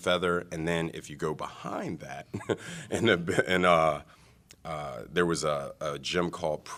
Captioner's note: laughter